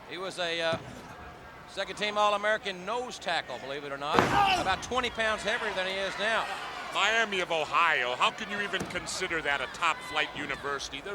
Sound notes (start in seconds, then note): 4.1 body thudding; 4.3 bellowing